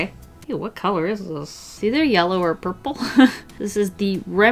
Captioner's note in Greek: Γέλια